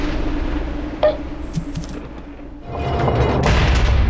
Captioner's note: lighting strikes; fruit bonks; gates slam